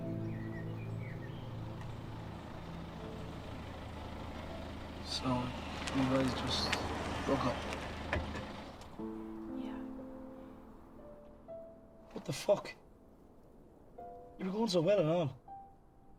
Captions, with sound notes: [Sound of car engine] So, you guys just... Broke up? [Engine stops] Yeah. What the fuck?! Ye were going so well and all.